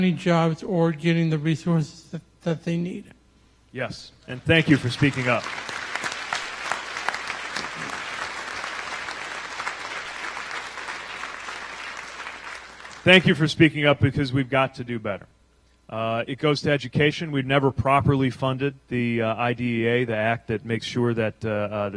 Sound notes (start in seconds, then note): 10.0 applause